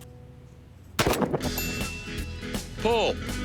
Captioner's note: gun shot; bell ding